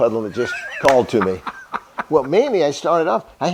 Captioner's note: laughs loudly